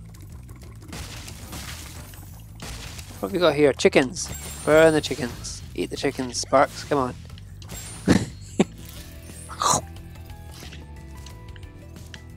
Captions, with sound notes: (chests crack) What have we got here, chickens? Where are the chickens? Eat the chickens, Sparx, come on. (Player chomps)